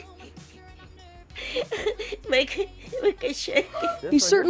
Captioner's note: laughs